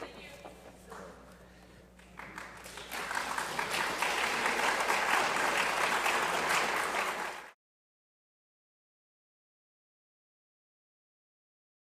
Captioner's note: applause